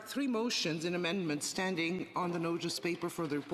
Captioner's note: speaking French